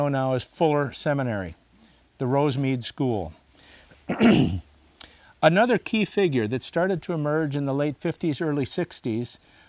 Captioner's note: clears throat